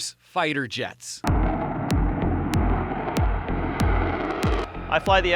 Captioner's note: engine rumbling; percussive music